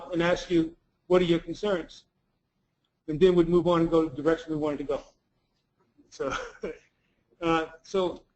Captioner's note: laugh